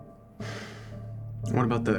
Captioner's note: exhales